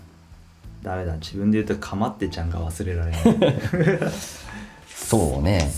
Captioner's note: laughs